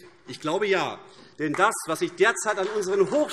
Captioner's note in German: Beifall AfD